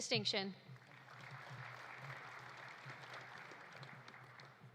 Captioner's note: audience applauding